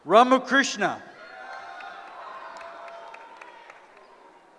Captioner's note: cheering